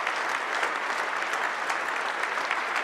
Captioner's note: applause